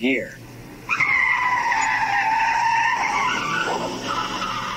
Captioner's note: tires screeching